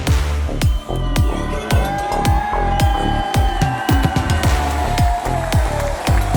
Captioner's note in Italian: Applauso